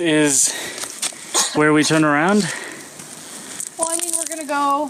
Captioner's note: coughs